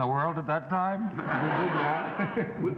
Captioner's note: laughing